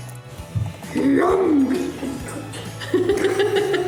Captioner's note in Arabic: يضحك